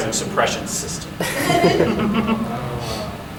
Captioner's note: audience laughing